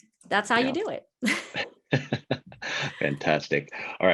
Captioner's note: laughing